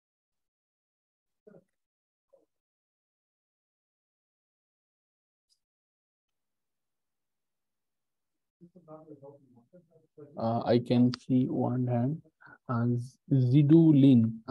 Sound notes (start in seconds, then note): 8.4 silence